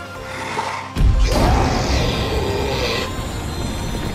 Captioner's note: growl